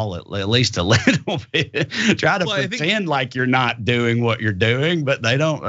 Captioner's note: laugh